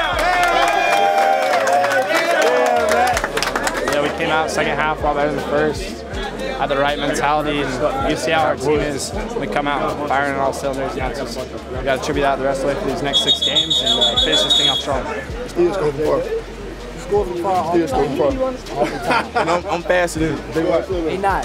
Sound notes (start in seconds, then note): 4.4 cheering